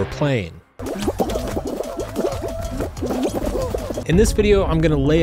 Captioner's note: characters blooping